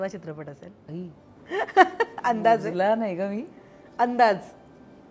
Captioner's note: Chuckles